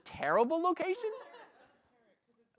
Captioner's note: laughter